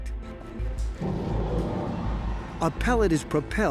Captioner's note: machine whirring